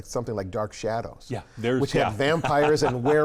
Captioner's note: laughs